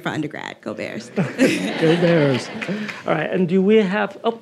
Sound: audience laughing

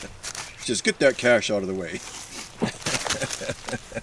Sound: chuckles

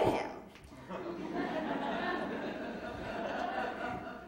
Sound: audience laughing

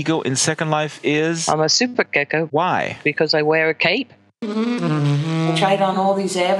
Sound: laughs

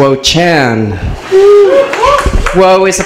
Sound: audience cheers

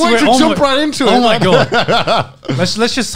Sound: laughs

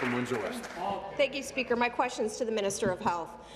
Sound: applause

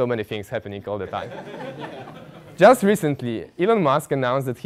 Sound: laugh

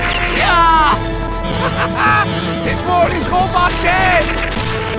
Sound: laugh

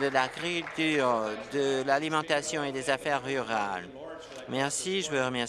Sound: applause

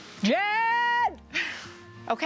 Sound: yelling; laughs

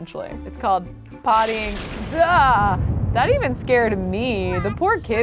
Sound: thunder rumbling

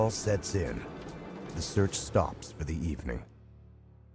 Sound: voiceover

